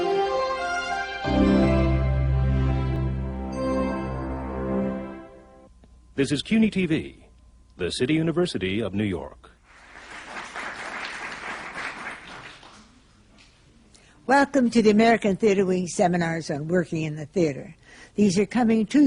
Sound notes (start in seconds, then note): 6.2 applause